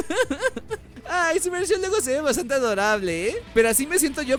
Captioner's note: laughs; punk Music